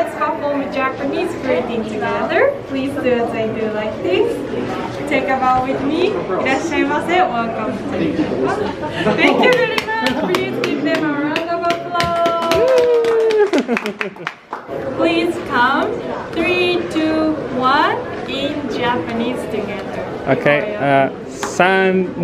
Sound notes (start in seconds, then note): 7.1 speaks Japanese; 12.7 light applause; 13.2 chuckles